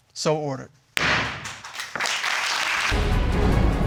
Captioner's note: gavel bangs